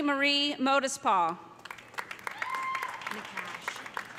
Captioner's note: applause